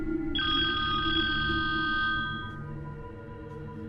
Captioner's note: mysterious music; phone rings